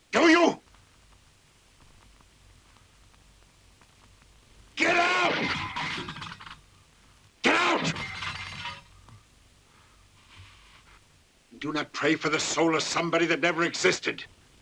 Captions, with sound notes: Do you? Get out! (metal clattering) Get out! Do not pray for the soul of somebody that never existed.